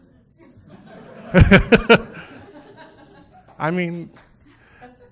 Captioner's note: people laughing; laughing